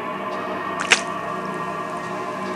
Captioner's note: splat